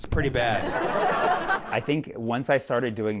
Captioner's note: laughter